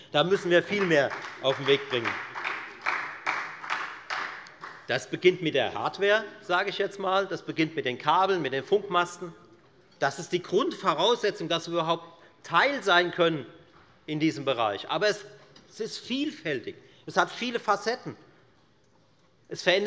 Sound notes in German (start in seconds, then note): 2.3 Beifall bei der FDP und bei Abgeordneten der SPD